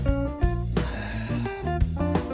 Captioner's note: long Sigh